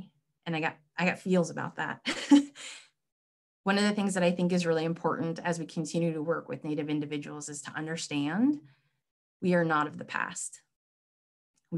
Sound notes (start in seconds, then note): 2.1 laughs